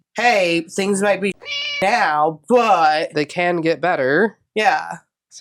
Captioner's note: meow